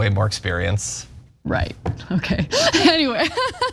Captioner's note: laugh